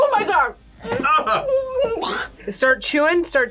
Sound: gags

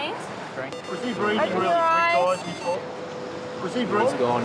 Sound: defibrillator beeping

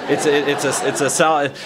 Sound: laughter

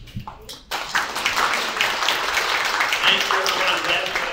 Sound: audience applauds

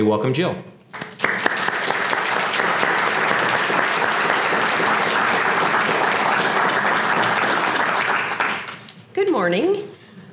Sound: applause

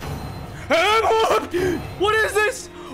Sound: big breath aaaaa

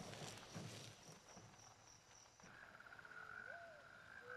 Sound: crickets chirp

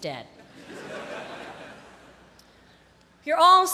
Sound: laughter

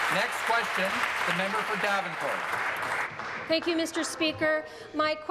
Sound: applause

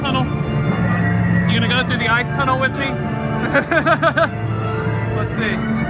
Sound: laughs

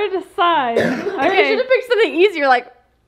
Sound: coughs

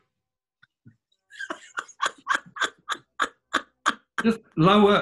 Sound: quiet cackling

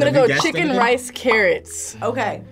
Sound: bubbles popping

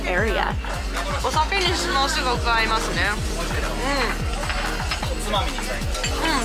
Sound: speaking in foreign language

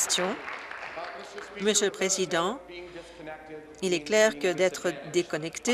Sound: applause

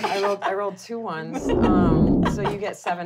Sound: booming

